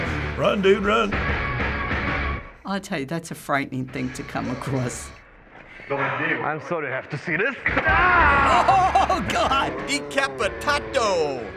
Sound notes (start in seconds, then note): 7.9 laughing